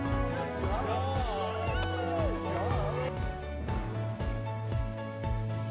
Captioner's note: cheering and chattering